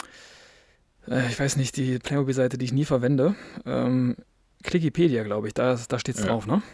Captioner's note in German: japst